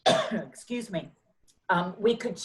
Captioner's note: coughs